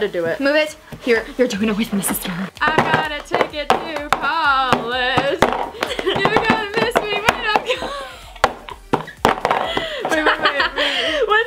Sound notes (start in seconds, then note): 9.7 laughs